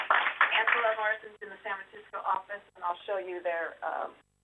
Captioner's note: applause